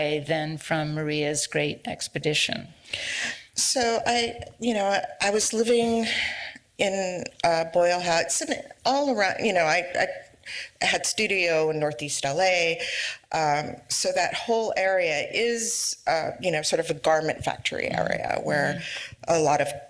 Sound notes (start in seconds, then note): none